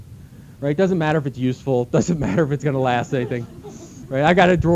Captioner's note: laughter